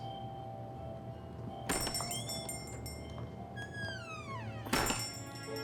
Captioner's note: gentle Christmas music; bell jingling; door creaking